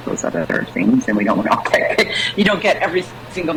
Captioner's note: chuckles